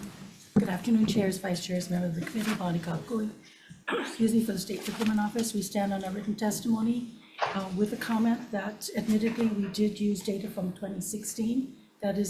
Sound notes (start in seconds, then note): 3.8 coughs